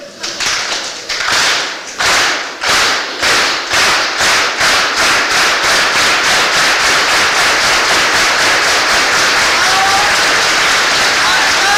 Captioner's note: synchronized Clapping